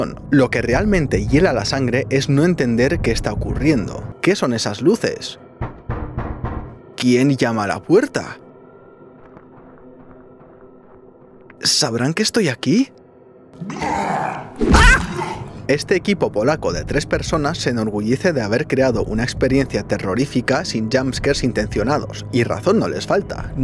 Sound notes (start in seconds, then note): 9.1 steps; 13.5 grunting